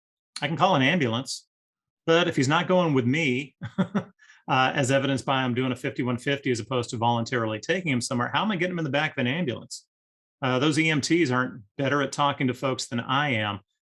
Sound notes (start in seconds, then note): 3.6 laughs